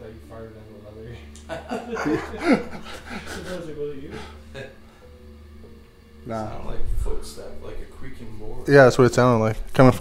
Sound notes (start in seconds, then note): 1.3 group laughing